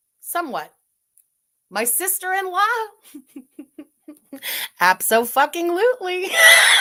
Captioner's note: laughs